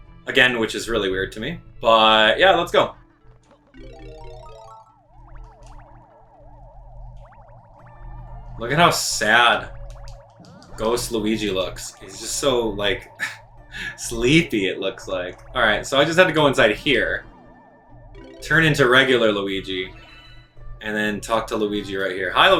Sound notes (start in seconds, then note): 3.4 instrumental music; 3.8 gaming sounds